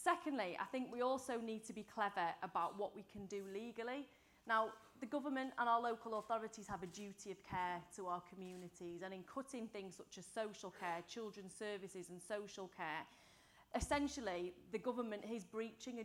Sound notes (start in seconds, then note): none